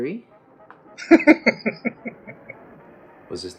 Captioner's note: laughing